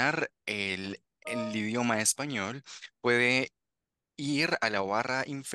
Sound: interpreter continues speaking Spanish

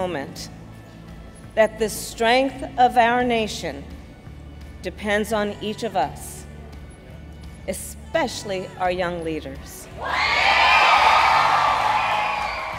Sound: applause

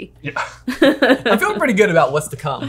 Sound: laughing

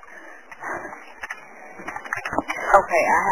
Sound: whimpering; dispatcher typing on keyboard

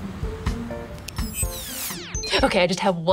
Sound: machine beeps

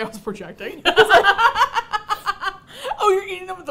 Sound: both laugh

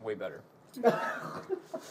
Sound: laughs

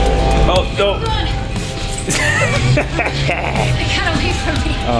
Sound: cart squeaking; laughing; camera operator laughing

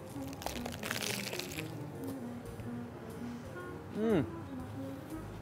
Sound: lettuce crunching

